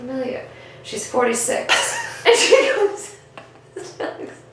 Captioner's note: both laugh